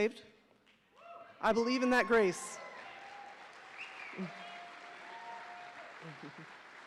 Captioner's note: audience cheering